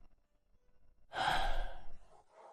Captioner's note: sigh